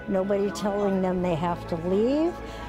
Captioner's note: none